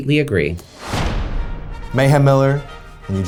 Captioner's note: metal thudding